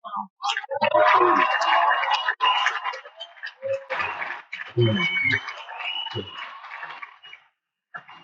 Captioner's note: cheers and Applause